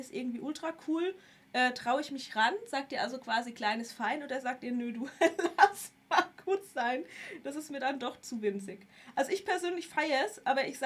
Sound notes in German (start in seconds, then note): 5.1 gelächter